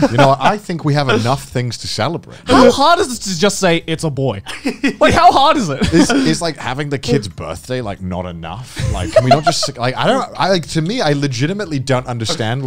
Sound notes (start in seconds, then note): 8.8 laughing